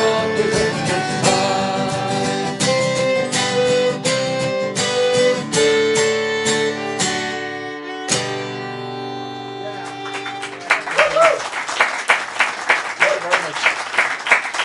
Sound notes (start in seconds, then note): 9.6 applause, cheering